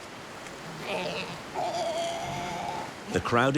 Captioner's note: sea lions grunting